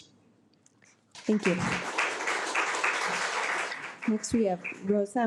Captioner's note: audience applauding